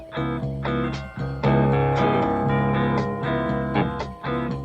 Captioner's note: doorbell rings